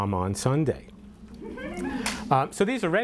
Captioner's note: audience laughter